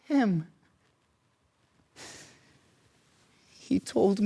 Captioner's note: short sharp breaths